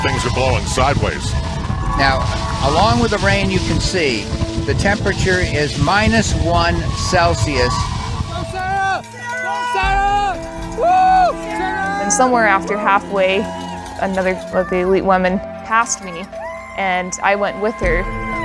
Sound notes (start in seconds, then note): 9.2 cheering